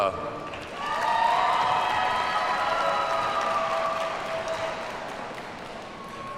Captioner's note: audience cheers and applauds